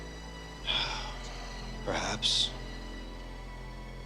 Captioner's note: sighs